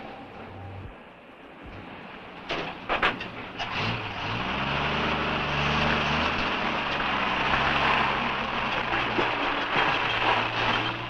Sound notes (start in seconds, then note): 4.4 engine rumbling